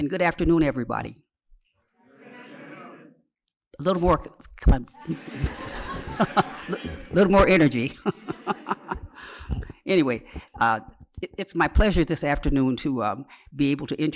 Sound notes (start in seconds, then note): 7.1 laughter; 8.9 laughs